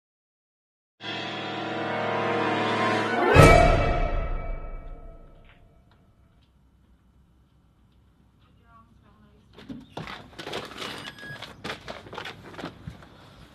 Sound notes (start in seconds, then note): 10.8 door bleeps